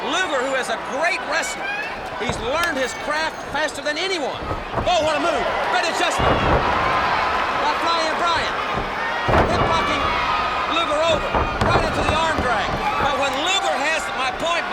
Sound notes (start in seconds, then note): 6.6 blows thudding; 6.6 body thudding